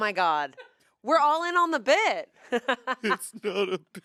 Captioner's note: laughs